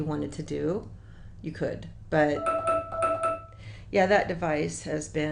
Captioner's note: beep